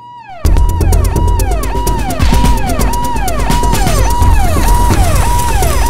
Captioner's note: Police siren